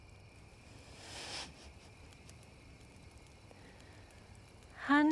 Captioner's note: Salina laughs